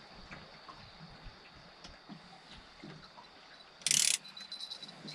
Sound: water lapping; reel cranking

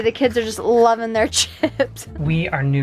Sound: chuckling

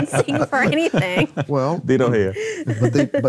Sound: laughing

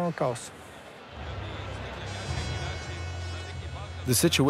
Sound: riots and hooting

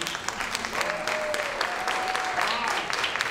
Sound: applauding

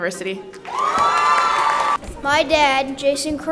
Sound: attendees cheering

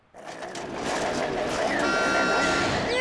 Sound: car growling; horn honks

